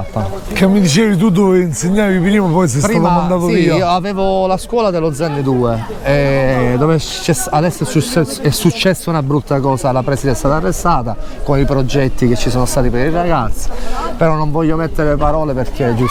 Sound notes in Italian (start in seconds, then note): 0.6 Risate